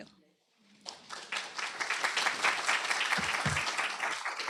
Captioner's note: applause